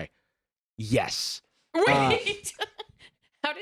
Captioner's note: laughing